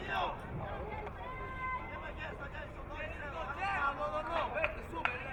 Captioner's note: crowd cheering